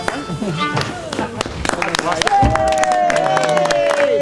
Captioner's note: clapping and cheering